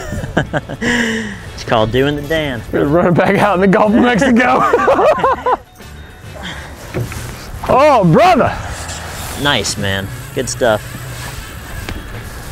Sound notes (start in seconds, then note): 0.0 laughing; 4.5 laughing